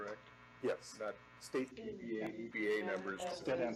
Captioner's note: indistinct chattering